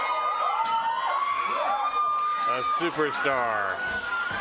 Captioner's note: bell ringing